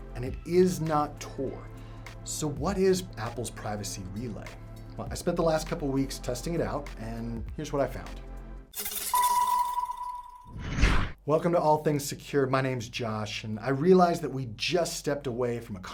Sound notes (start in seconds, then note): 9.1 upbeat music; 10.5 swooshes loudly